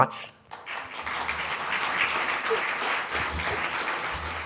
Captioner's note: audience applauding